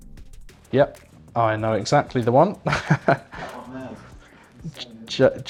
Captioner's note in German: lacht